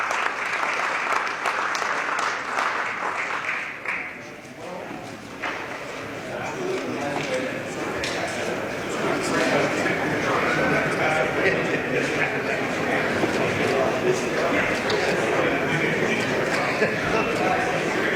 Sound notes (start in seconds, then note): 0.0 applause